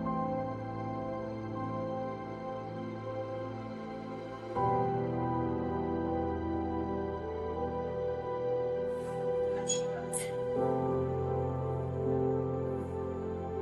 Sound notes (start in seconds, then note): 9.4 door opening